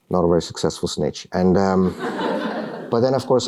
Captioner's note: laughter